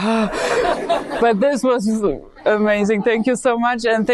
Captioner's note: audience laughing